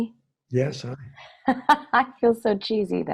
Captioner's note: laughs